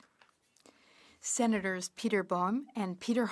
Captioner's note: speaking French